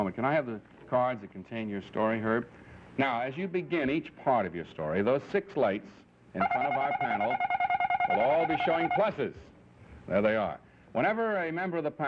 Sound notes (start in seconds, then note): 9.4 lights buzzing